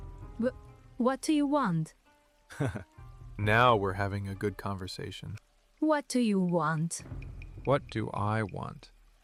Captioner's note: laughs